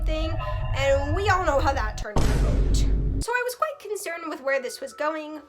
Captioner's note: FNAF ambience sounds vine boom